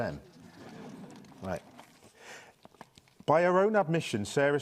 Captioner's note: audience chuckling